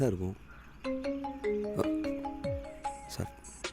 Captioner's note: phone Rings